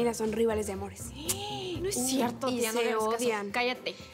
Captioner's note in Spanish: exclamaciones